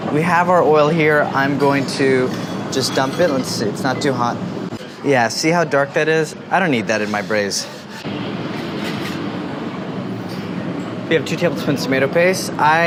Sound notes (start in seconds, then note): none